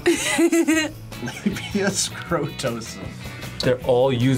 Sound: laughs

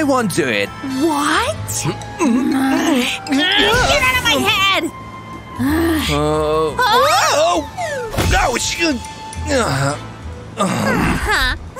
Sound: making happy sounds

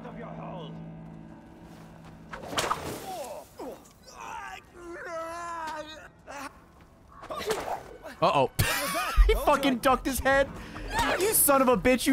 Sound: laughs

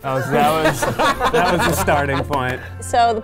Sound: laughing

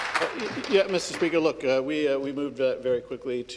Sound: some Applause

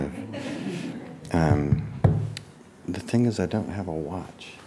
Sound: audience laughing

